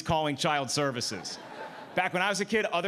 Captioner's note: audience laughing